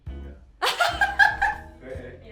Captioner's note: laughter